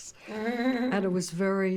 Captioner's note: Fran chuckles